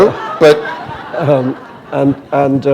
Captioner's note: laughter